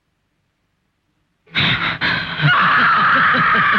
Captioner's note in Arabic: إلسا تلهث; جوليا تضحك; إلسا تصرخ